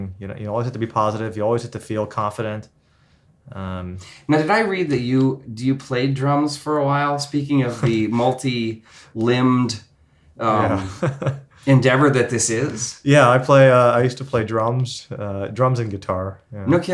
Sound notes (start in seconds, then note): 10.5 laughs